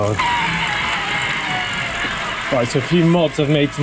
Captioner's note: screeching